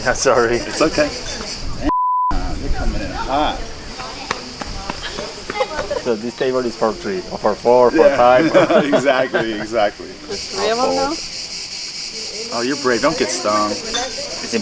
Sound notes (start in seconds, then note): 1.8 beep; 7.9 waiter laughs